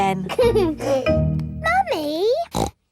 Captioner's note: giggles; snorts